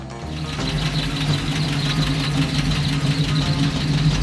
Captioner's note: engine humming